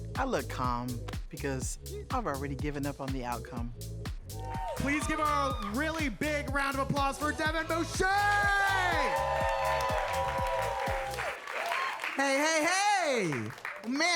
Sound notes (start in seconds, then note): 9.0 audience applauding; 9.0 audience cheering